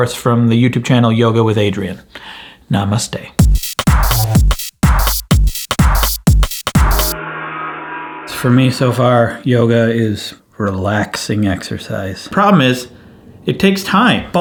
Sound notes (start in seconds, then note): 3.4 intense club music; 7.1 gong echoes